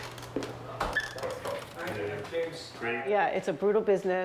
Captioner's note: door creaks